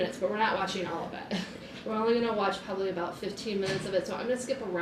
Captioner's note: laughs